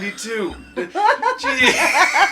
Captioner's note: laughing